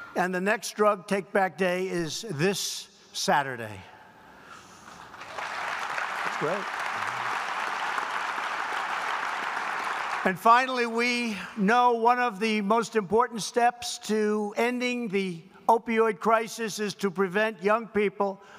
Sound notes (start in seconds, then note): 4.8 applause